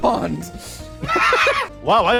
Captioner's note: laughter